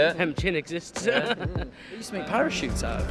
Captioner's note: laughs